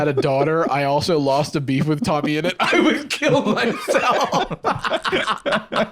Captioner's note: laughs; both laughing